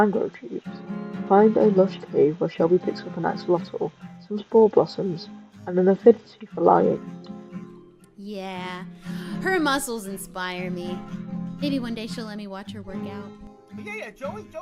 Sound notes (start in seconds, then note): 8.9 sighs dreamily